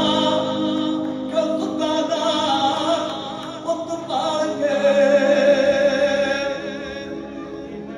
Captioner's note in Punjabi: ਤਾੜੀਆਂ